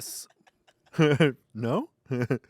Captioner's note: laughs